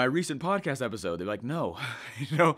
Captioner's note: laughs